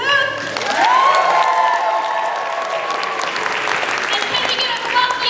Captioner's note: cheering